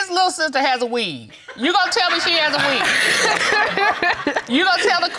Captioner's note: audience laughs